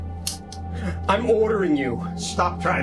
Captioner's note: gun clicks